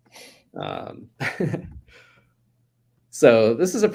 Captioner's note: chuckles